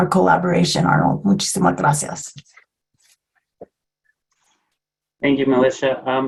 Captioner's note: foreign language